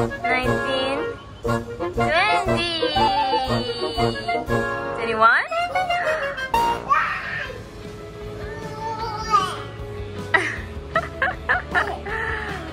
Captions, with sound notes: Nineteen Twenty! Twenty-one?! [screams] [laughs]